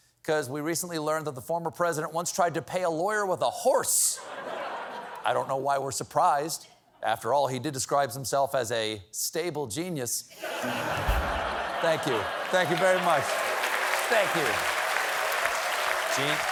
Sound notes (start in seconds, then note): 10.4 laughter; 11.4 applause